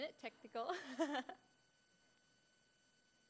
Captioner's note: laughing